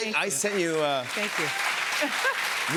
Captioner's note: cheers and applause